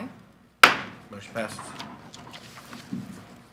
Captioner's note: gavel taps